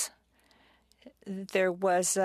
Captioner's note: speaking French